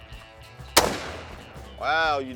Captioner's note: gunshot